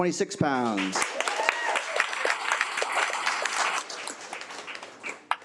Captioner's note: attendees applaud